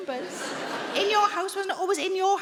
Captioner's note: audience laughing